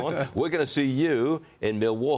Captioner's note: laughter